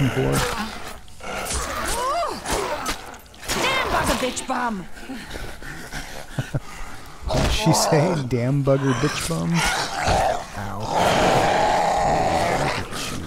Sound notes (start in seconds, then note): 6.0 chuckle